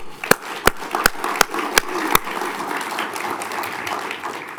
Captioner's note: applauds; audience applauds